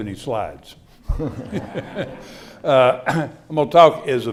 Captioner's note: laughter